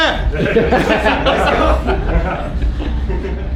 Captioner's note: all laugh